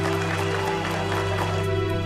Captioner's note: crowd cheering